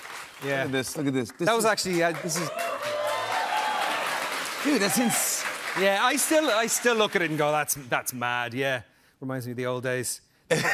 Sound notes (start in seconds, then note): 1.5 cheers and applause; 10.5 laughter